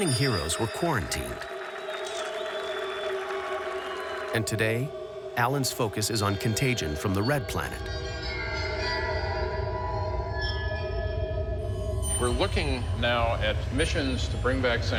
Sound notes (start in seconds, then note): 0.0 applause